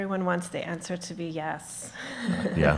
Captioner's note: chuckles; everyone laughs